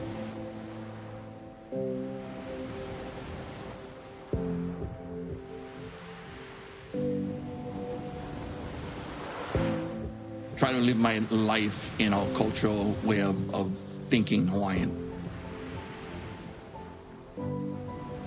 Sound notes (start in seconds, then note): 1.0 soft music; 1.0 waves crashing